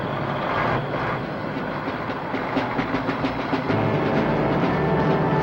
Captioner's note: truck engine whirring; dramatic music